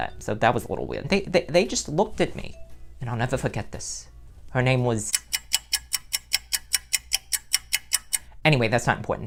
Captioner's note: clock ticking noise